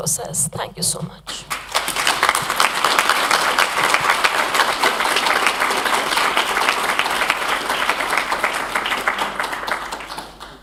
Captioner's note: applause